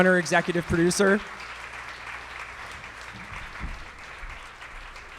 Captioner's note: audience clapping